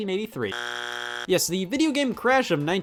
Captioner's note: buzzer beeps